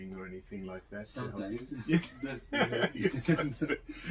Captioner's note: laughs